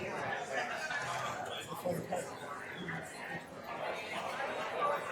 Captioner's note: attendees chattering